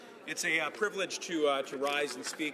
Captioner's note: some Applause